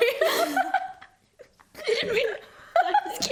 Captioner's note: laughs